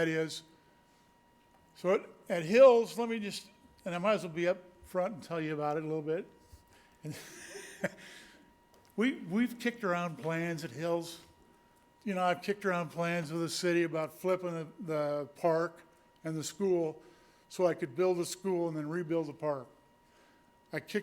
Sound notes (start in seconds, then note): 7.0 laughs